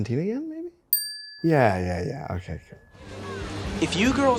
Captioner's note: bell dings